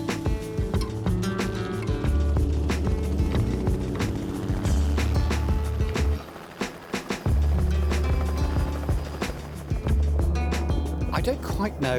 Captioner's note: helicopter flying past